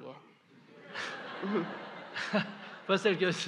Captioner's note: audience/ Laughter